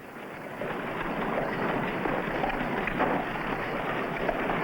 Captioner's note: carriages rattling